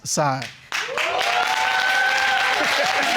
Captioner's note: audience cheering